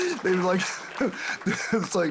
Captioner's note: audience Applauding